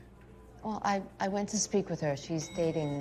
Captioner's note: elevator dings